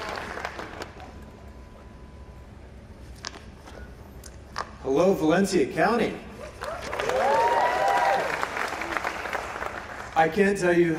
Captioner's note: applause